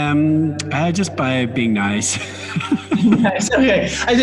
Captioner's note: laughs